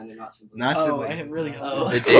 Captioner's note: laughs